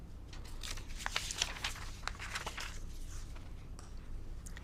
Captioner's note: paper rustling